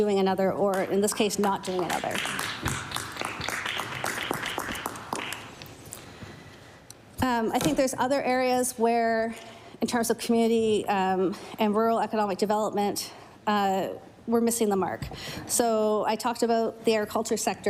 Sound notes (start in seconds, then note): 6.5 applause